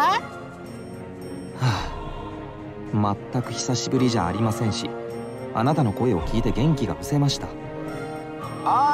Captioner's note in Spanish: suspiro